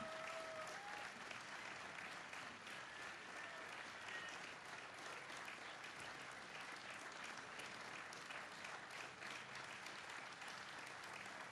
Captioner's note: applause